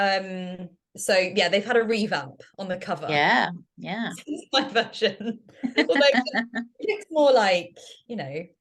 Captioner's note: laughter